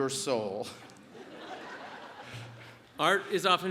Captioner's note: audience laughs